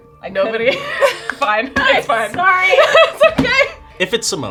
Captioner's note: laughing